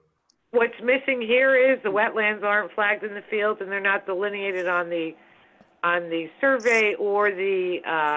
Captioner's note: phone